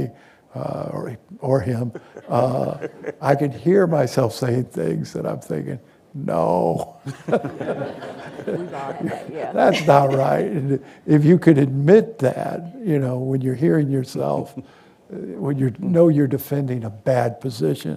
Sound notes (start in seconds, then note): 7.0 laughter